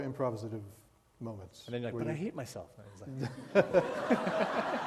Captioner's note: laughter